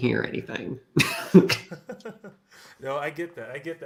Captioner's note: laughter